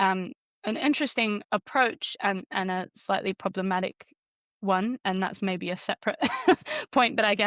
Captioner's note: chuckles